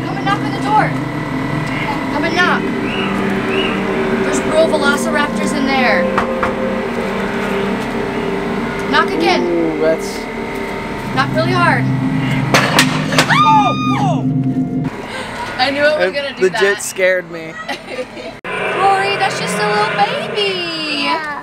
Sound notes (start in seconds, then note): 13.2 screams